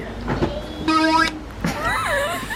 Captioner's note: toy squealing; laughing